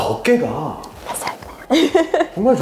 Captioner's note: laughs